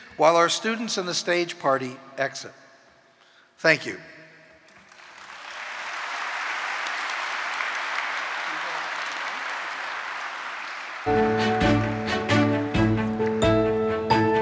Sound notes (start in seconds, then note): 4.8 audience applauding; 11.0 joyful music